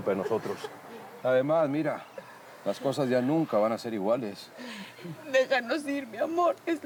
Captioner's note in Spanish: Sollozos